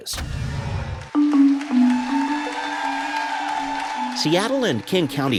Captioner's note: cheers and applause